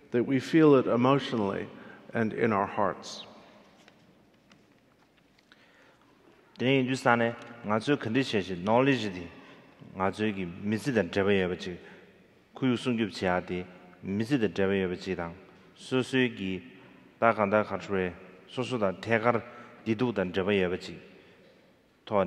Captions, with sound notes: that we feel it emotionally and in our hearts. (speaking in foreign language)